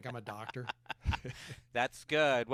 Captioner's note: laughing